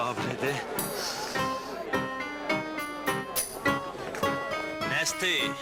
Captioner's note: rhythmic music; sigh